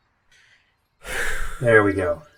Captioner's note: cast takes a deeper breath